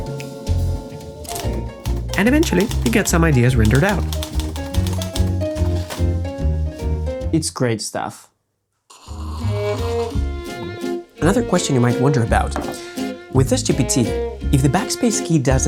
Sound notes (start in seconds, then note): 8.9 slurp; 10.5 gulp